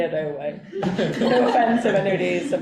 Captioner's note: group laughing